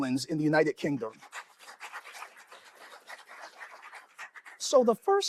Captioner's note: applause